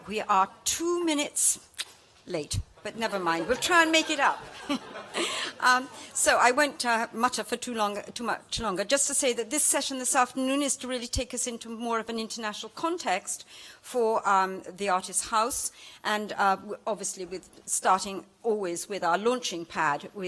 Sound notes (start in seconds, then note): 4.7 laughter